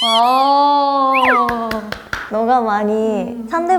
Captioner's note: clapping first